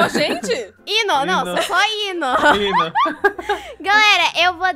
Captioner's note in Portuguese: Risadas